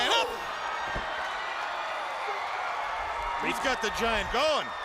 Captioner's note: crowd cheering